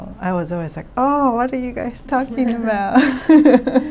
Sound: laughs

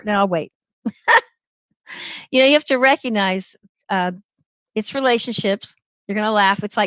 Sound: laughter

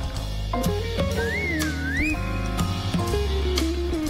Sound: whistles

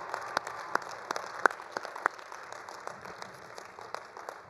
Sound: all applauding

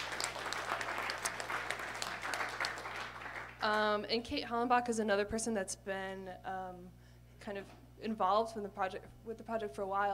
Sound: applause

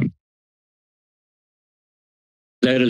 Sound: silence

